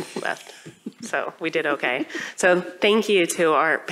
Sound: laughter

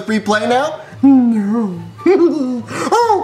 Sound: laughs

